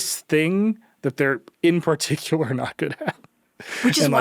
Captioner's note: chuckles